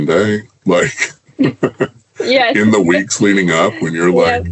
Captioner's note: chuckles